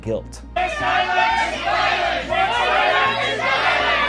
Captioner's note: crowd shouting